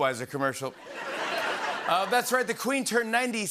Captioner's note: laughter